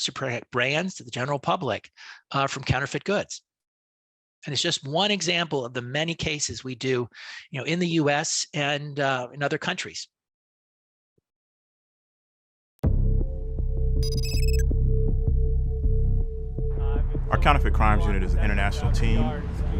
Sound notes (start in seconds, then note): 13.0 dramatic music; 14.0 digital tones